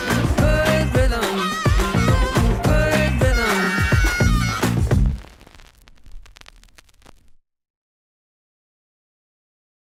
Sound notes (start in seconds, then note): 5.4 static crackling